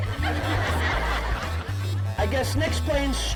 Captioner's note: audience laughing